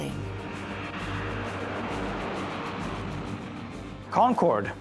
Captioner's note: air whooshing